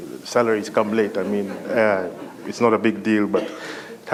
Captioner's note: laughter